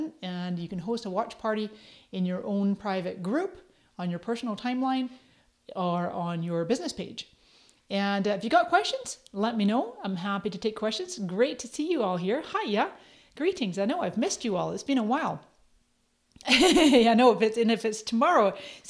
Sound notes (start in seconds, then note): 16.4 laughs